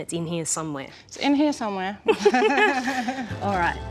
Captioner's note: both laugh